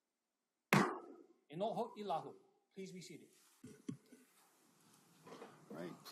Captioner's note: gavel bangs once